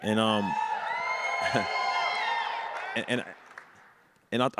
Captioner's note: audience cheers